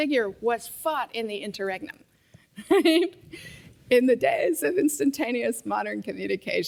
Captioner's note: laugh